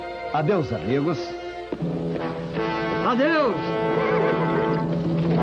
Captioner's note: horse neighs